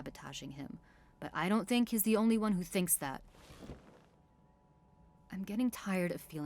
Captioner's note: chair creaking